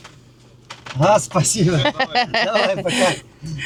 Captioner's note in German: gelächter